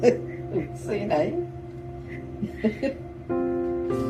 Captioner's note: laughs